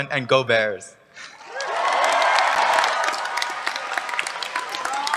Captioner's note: cheers, applause